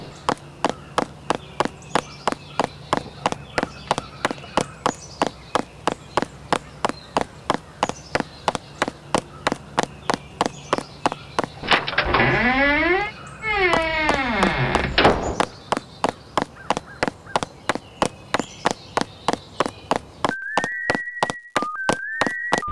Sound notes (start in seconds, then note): 0.2 footsteps; 11.5 door opens and shuts; 15.3 footsteps; 22.5 bump